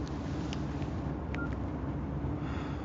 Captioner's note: beeps